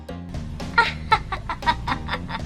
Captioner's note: laughing